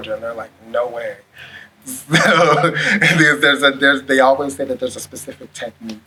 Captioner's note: laughs